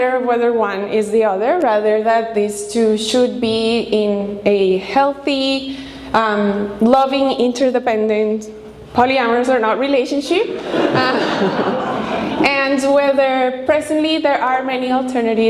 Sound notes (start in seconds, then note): 10.4 audience laughing